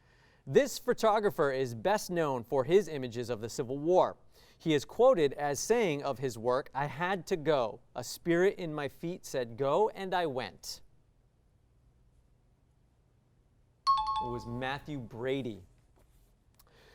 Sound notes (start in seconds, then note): 13.8 high-pitched tones